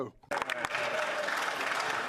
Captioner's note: speaking French